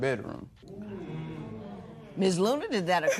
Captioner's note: spectators murmur